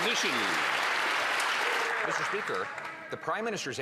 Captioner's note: some Applause